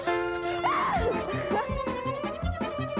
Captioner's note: <i> screams</i>